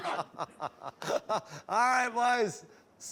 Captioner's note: laughter